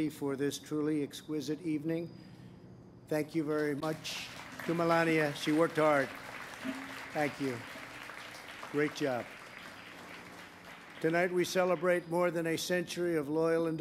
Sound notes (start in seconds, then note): 8.0 applause